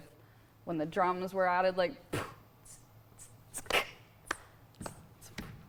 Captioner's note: vocalizing drum beats